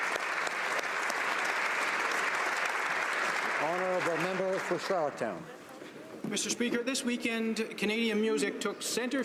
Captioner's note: applause